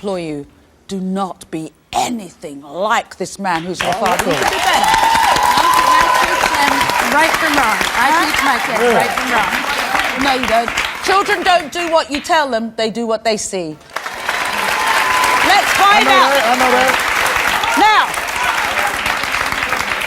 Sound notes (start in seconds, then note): 5.5 audience cheers and applauds; 13.8 audience applauds